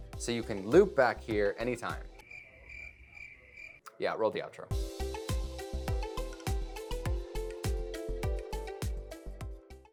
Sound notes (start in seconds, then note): 1.5 crickets chirping; 4.6 upbeat music